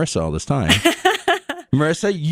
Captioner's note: laughs